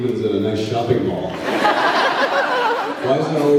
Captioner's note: laughs